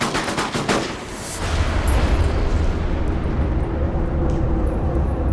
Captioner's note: gunfire; shots echo